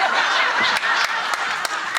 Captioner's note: audience laughing